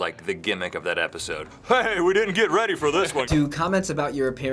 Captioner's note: deeper voice